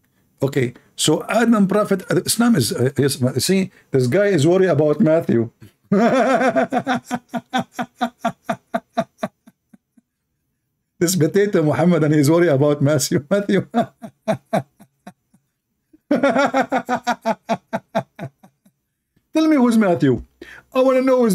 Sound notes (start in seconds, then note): 5.6 Ketawa; 13.5 Ketawa